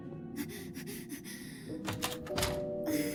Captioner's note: panting frantically